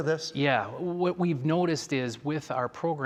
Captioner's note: none